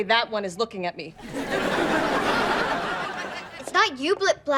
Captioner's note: laughs